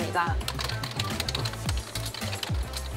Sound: typing

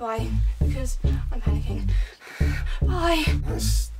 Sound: heavy breathing

